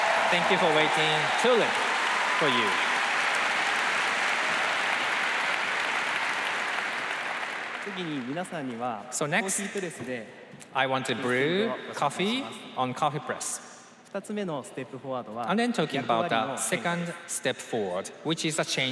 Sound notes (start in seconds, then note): 10.0 applause